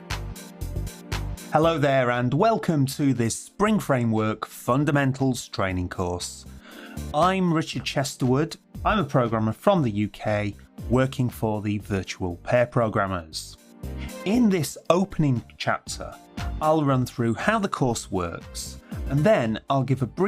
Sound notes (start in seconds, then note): 1.7 voiceover